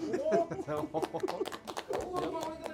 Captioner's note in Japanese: 拍手